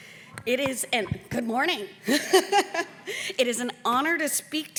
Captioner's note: chuckles